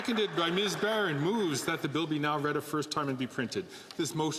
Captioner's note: some Applause